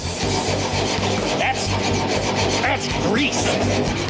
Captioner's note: spatula scraping